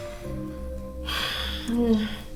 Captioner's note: exhales